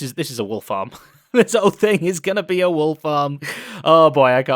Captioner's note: laughs